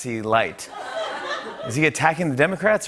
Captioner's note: laughter